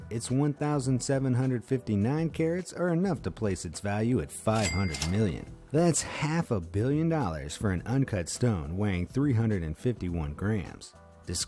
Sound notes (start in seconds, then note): 4.5 cash register ringing